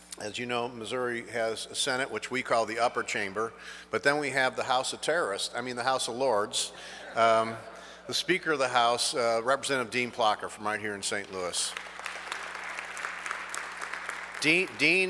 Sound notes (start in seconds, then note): 6.8 audience laughs; 11.0 audience clapping